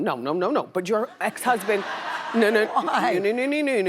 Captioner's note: audience laughing